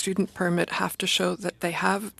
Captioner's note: speaking French